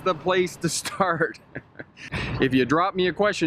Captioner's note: chuckles